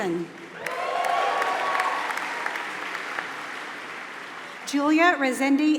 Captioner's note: applause